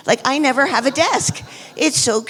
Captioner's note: audience laughs